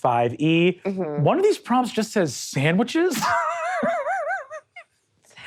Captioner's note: laughs